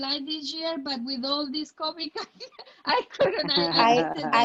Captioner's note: laughing